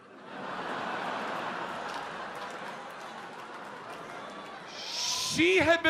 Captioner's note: audience laughs